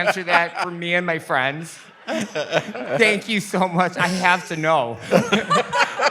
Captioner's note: laughter